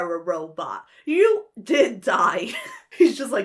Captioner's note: laughs